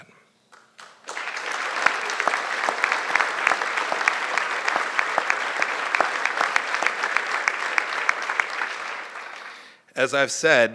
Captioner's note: applause